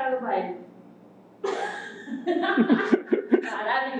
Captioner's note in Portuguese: risos